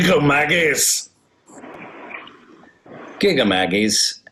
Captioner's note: scottish accent